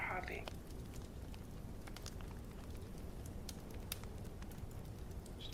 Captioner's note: fire crackling